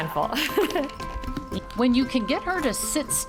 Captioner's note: laughs